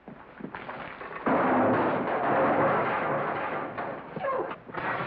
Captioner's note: barrell clatters; glass breaks